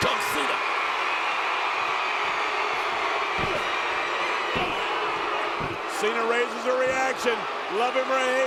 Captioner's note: applause